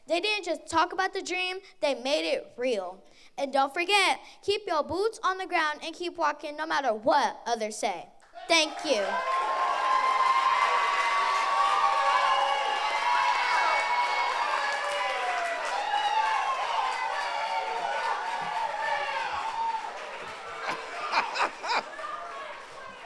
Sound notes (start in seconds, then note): 9.4 audience applauds